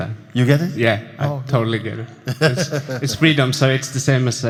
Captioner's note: laughs